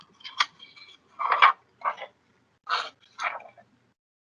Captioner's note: pages rustling